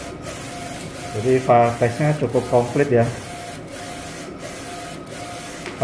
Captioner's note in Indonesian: suara mesin printer